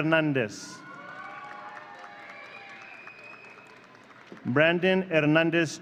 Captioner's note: audience cheering